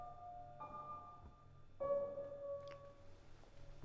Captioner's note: none